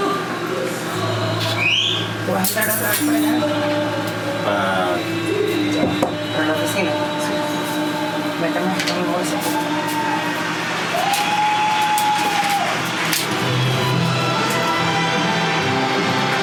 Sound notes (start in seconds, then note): 1.4 whistles; 10.8 applause from audience